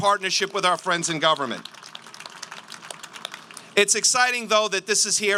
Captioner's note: applause